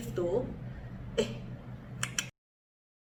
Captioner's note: clicks tongue